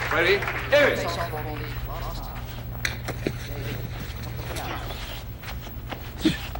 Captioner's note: Arthur narrates in distance